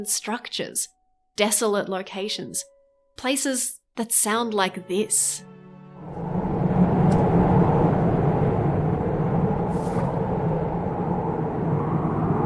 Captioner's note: spooky wind